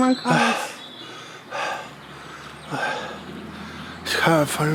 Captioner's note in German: Stöhn Stöhn